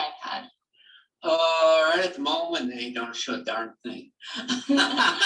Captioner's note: laughter